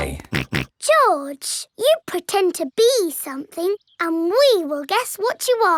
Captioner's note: snorts